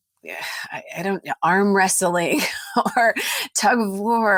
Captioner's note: laughs